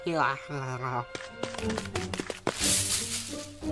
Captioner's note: running